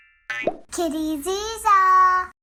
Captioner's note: bouncing; twinkling